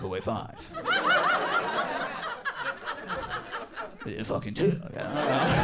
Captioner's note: audience laughing